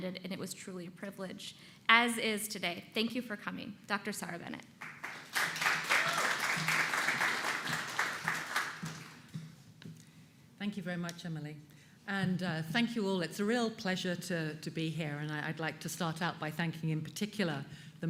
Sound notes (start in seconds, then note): 4.8 applause